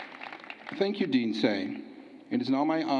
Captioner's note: applause